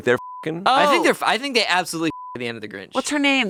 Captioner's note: beep